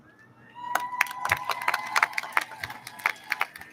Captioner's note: audience lauds